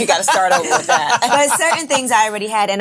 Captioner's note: ladies laughing